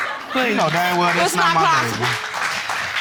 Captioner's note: audience applauding